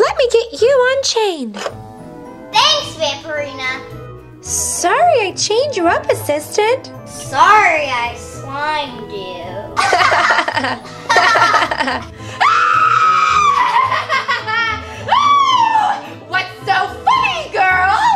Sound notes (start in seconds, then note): 9.7 laughing; 12.4 screaming